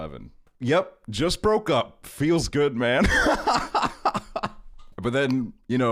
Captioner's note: laughing